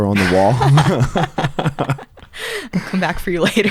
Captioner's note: both laugh